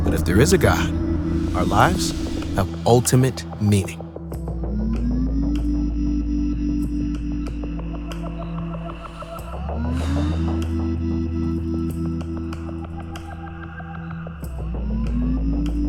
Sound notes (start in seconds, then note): 4.1 gentle music; 7.0 crickets chirping